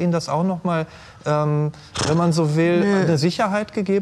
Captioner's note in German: none